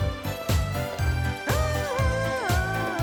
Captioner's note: humming